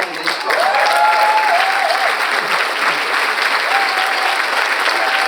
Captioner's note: audience cheers and applauds